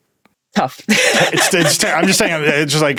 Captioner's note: laughs